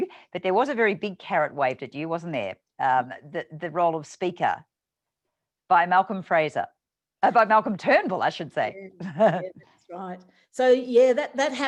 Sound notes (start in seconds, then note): 9.0 laughs